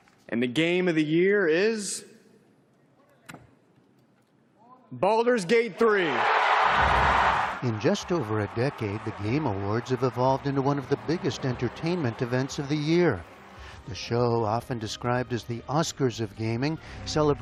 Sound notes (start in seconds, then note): 6.7 cheering